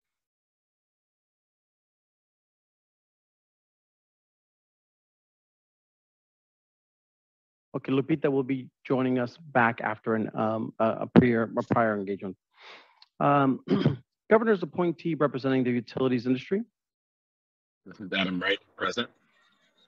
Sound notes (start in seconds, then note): 1.1 silence